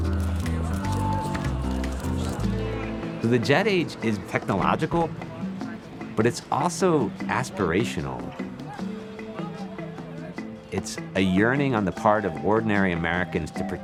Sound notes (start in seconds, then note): 7.6 crowd clamoring